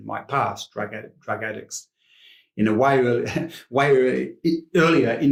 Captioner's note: chuckles